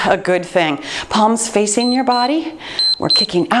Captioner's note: timer beeps